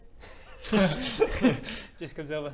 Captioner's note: laughs